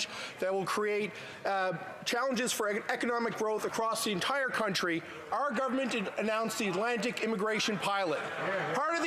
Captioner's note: none